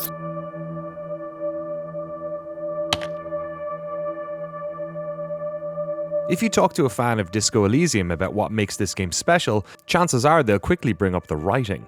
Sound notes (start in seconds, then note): 3.0 click